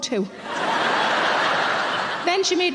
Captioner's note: audience laughing